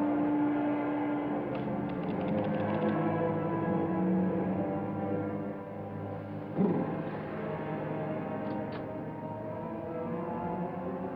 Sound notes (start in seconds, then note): 6.7 man shivers